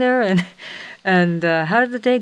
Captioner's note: chuckles